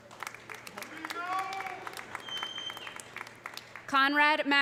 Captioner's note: audience applauding; whistles